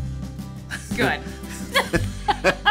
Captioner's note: laughs